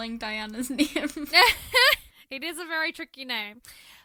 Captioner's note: laughs